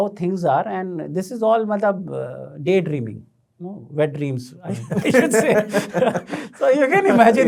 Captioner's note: laughing